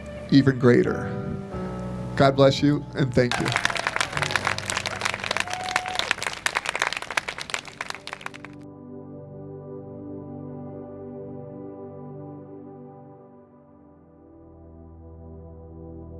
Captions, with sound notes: even greater. God bless you and thank you. (clapping and cheering) (slow, contemplative music)